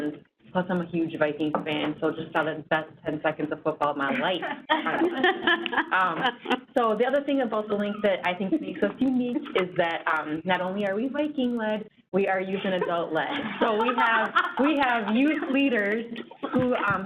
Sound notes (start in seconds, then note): 4.2 laughter